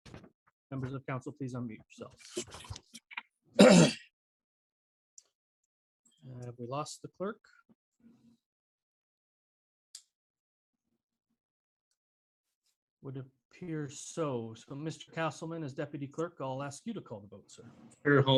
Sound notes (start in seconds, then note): 3.6 clears throat